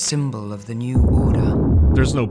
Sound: baboom

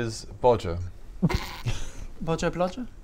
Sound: snickering

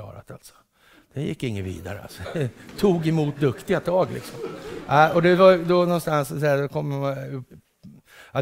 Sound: laughter

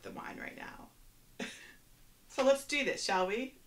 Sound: laughs

